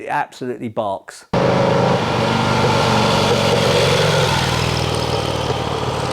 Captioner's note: motorcycle engine sound